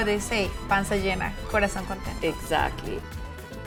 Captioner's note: speaking Spanish